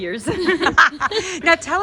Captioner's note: laughing